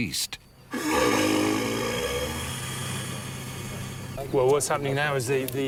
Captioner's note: rhino grunts